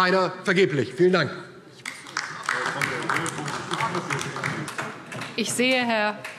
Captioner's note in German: Beifall DIE LINKE